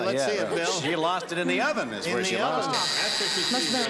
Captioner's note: buzzer sounds